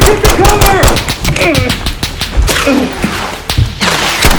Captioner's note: struggling in pain; distant gunfire